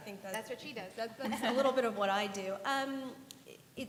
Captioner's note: laughter